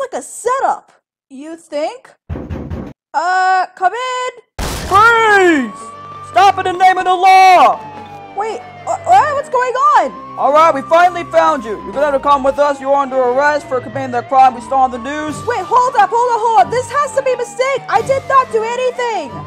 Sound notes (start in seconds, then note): 2.3 door banging; 4.6 door bashes open